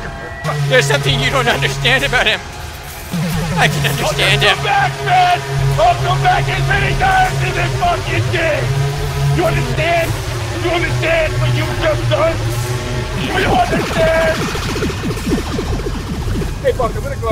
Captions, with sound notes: Theres something you don't understand about him! I can understand him! I'LL COME BACK BED! I'LL COME BACK AND FINISH THIS GOD FUCKING THING! YOU UNDERSTAND?!?! You understand what you just done?! *Laser noises*